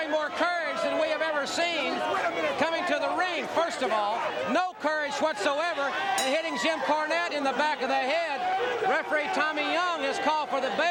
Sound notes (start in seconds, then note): 0.1 crowd chatter; 6.2 bell ringing